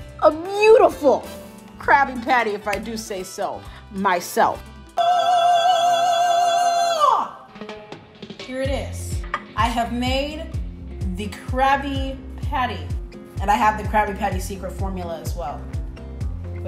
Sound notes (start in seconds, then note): 5.0 hums